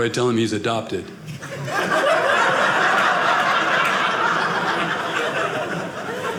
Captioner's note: audience laughing